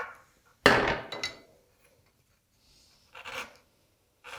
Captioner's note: coping saw on desk banging; chisel on wood scraping